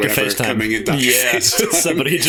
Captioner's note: laughter